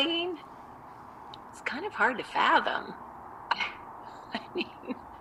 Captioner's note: laughs